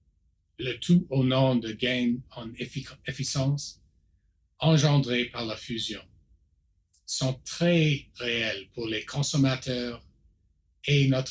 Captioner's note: repeats in French